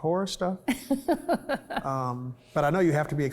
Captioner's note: laughs